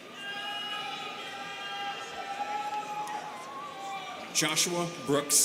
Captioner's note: students cheering